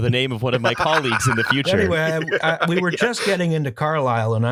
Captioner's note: laughter